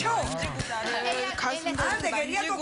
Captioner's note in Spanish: Risas del público